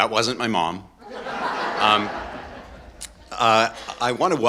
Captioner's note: audience laughing